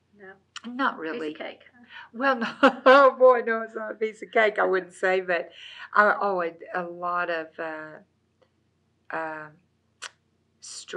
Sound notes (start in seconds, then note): 3.9 laughs